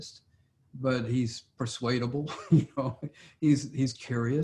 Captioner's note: laughs